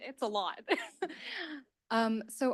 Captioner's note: chuckles